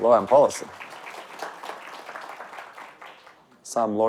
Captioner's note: audience applauding